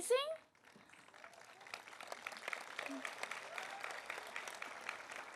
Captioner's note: audience applauding